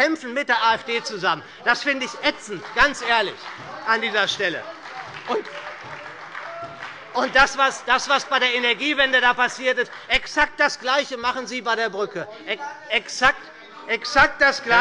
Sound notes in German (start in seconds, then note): 4.7 Beifall bei der SPD - Anhaltende Unruhe bei der CDU